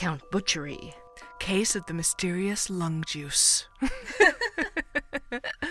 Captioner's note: both laugh